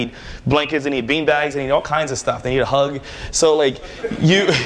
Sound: laughter

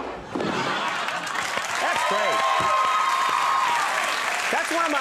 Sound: audience clapping and cheering

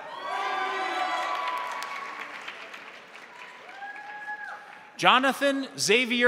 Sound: crowd cheering; crowd applauding

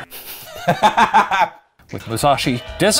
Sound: laughing

